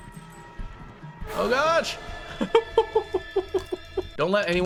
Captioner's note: laughs